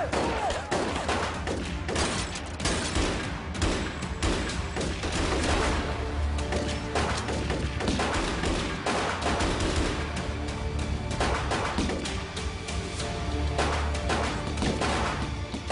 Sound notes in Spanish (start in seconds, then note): 2.1 Disparos